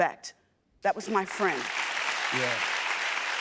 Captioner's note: audience applauding